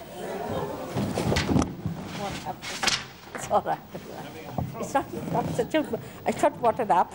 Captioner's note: microphone falls down